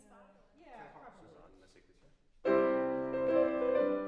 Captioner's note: speaks in foreign language; piano music